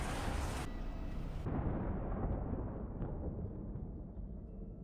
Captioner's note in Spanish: trueno